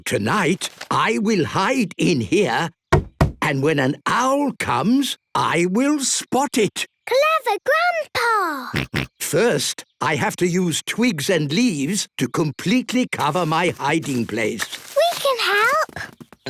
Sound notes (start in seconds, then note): 2.9 knocking; 8.3 George snorting